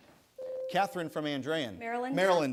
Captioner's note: bell rings